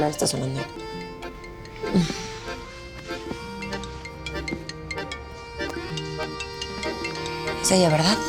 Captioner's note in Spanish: timbre de telefono